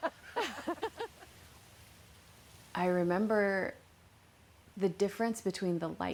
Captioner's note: laughter